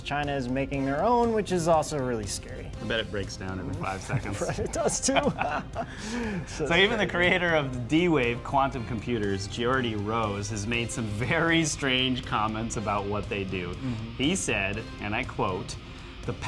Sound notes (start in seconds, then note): 5.5 laughing